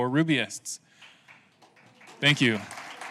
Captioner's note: clapping